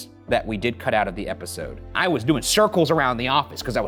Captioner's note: none